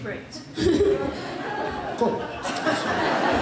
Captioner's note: laughter